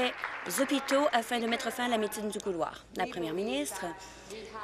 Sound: applause

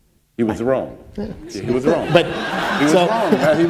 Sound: laughter

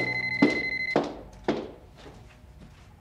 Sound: phone ringing

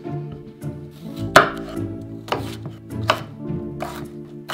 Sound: knife chopping

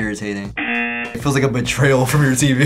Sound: buzzer rings

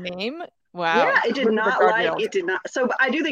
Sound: speaks faintly

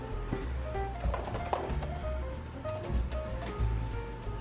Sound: upbeat jazz music; package rattling

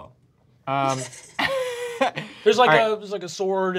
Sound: laughing

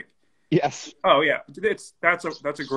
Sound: laughs

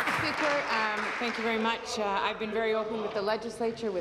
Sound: applause

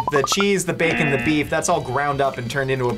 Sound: buzzer

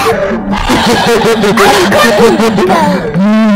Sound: cute satan laughing sounds

